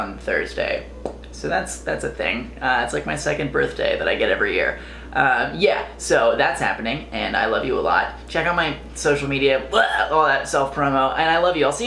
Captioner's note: barfs